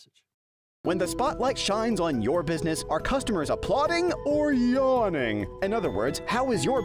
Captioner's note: voiceover